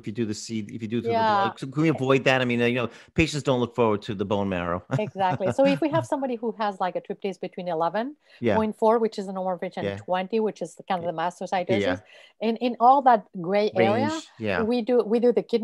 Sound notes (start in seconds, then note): 4.8 laughs